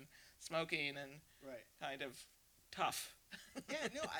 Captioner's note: laughs